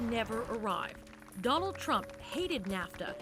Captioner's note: applause